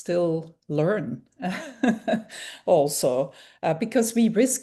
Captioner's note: laughing